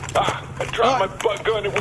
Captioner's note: laughing